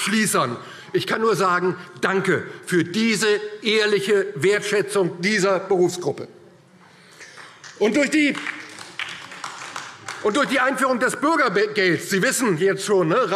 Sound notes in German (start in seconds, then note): 7.3 Beifall DIE LINKE und vereinzelt SPD